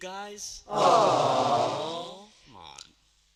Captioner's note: awww